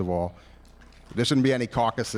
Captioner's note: applause